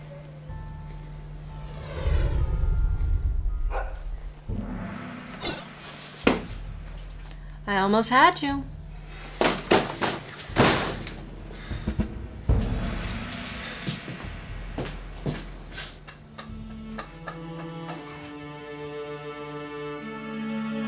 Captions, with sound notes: (ominous music) (dog barks) (beeping) - I almost had you. (door slams) (melancholy music)